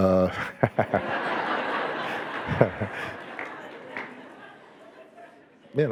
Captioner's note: Barack and audience laughing